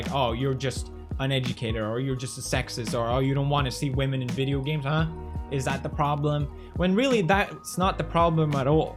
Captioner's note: none